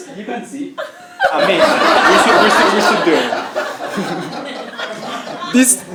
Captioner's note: laugh